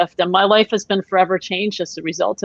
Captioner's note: none